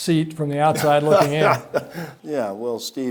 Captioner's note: Mark laughing